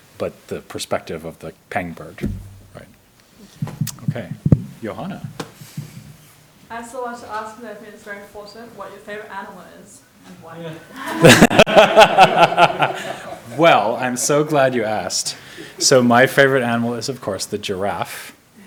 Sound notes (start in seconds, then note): 10.8 all laughing